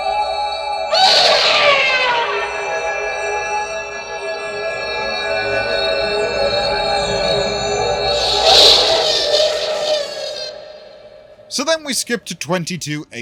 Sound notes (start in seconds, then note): 0.9 horror Scream; 8.4 horror Scream